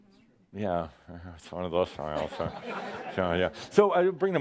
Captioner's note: some laughter as gives a smile that looks forced